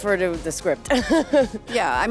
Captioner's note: laughs